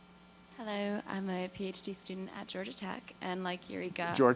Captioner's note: voiceover